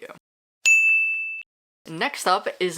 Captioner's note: bell dings